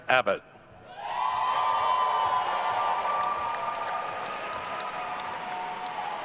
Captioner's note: attendees cheering and applauding